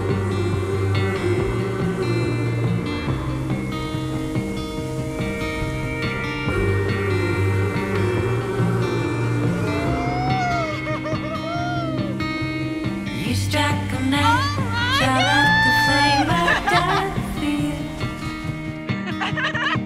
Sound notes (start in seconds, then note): 0.0 upbeat music continues; 12.7 laughs; 18.9 both laughing